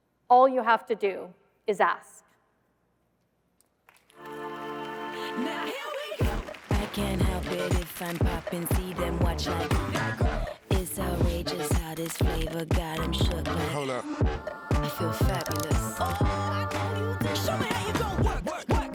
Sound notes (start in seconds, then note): 3.9 applause; 4.5 upbeat music